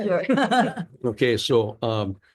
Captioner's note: laughing